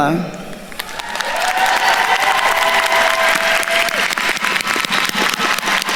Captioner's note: attendees cheering and applauding